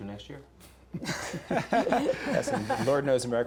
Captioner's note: group laughs